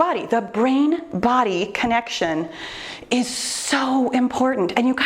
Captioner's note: none